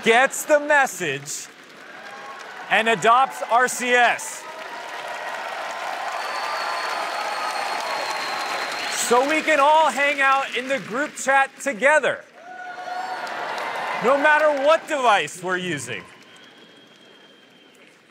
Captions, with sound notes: --gets the message and adopts RCS-- [CHEERS AND APPLAUSE] --so we can all hang out in the group chat together, no matter what device we're using.